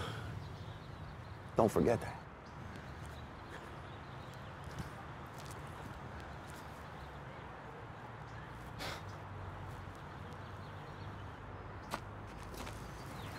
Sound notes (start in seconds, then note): none